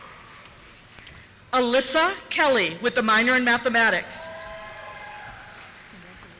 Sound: cheers

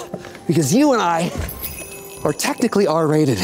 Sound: bells jingle

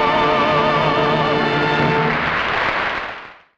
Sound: audience applause

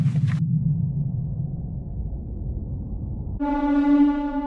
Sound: wind; horn blares

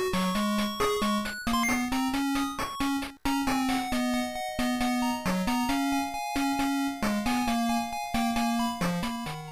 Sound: game audio

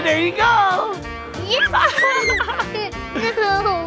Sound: laughs and screams

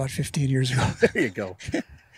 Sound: laughing

